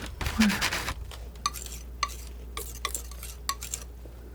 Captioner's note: scratching